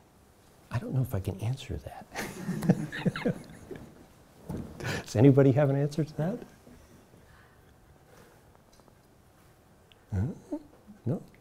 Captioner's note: chuckles